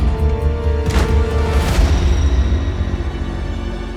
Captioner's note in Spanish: Sonido al cerrar la puerta